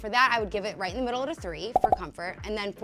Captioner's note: popping